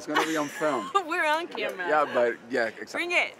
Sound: Allison laughing

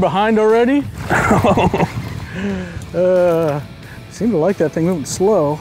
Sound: laughter

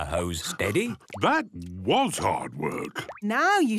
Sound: panting

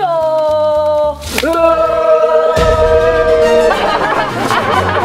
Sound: maniacal groaning; maniacal laughing

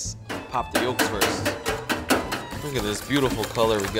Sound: metal clanking

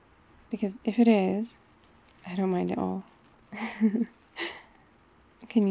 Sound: laughs

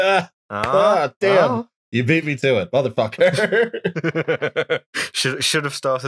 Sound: laughter

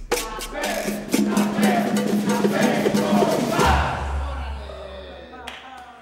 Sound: band chants - Café. Café. Café con pan

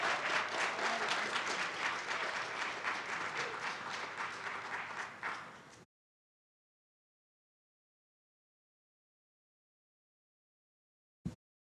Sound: audience cheers

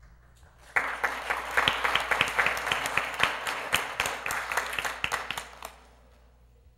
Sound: applause

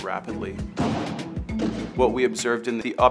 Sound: defibrillator discharging

